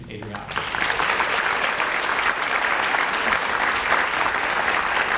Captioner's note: audience applauds